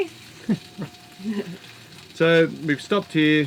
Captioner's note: laughing